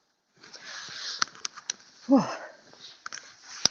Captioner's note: sighs